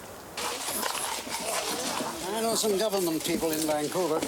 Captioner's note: horse neighing; people chattering